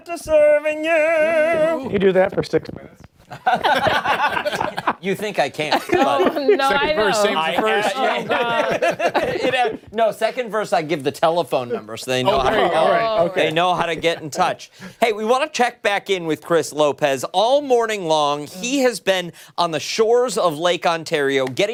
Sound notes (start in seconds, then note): 7.9 laughter